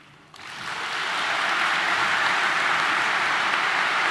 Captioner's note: audience applauding